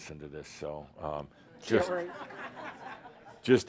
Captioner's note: some chuckles